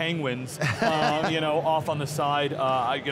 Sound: laughs

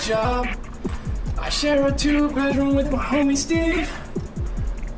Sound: in robotic voice

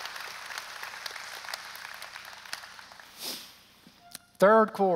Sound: applause

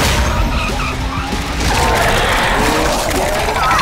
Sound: roaring

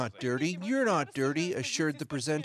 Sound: speaking russian

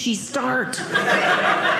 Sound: audience laughing

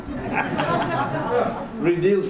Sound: audience laughs

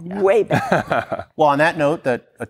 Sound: laughing

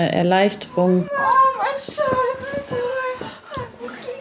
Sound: wheezing

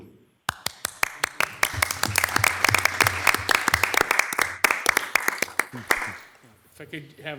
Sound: applause

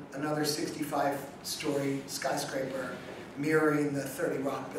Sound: none

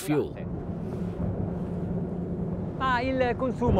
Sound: engines roaring softly; speaking in Italian

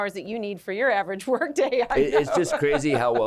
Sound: laughter

